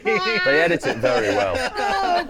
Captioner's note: laughing